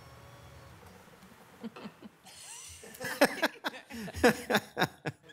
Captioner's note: members laughs